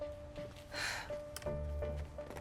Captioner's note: tense music; sighs